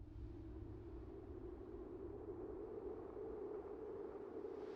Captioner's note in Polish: niypogodne echo i wiater